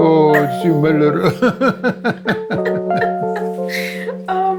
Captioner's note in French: rires